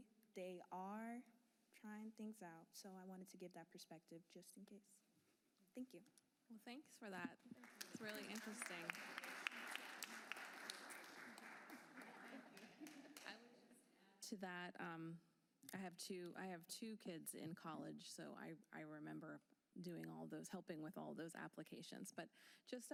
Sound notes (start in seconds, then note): 12.0 applause